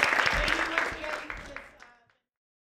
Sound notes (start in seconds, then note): 0.0 applause